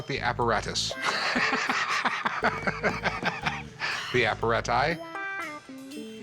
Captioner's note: laughs